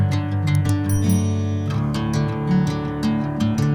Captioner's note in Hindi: घंटी की आवाज़